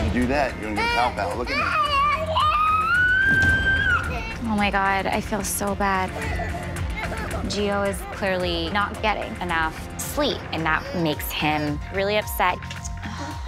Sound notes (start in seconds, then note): 0.0 yelling; 1.8 screaming